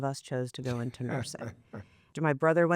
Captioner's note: laughs